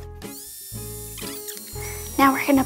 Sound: drill whirs

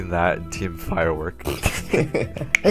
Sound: laughing

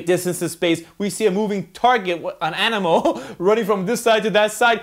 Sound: laughs

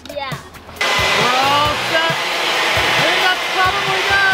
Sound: air blower motor running

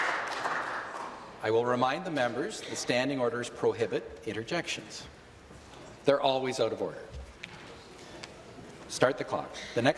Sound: applause

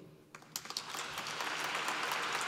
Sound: applause

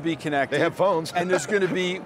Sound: laughs

